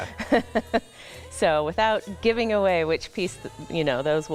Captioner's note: laughing